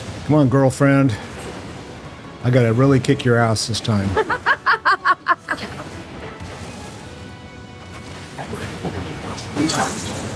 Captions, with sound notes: my little girlfriend. And we're going to kick her out. [laughs]